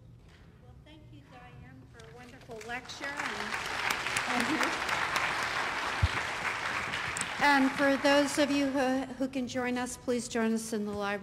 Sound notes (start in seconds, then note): 4.7 applause